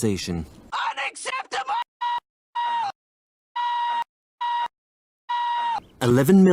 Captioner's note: Lemongrab screaming